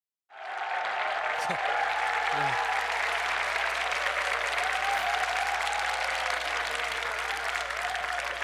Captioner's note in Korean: 박수 소리